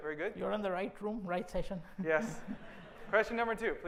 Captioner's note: laughter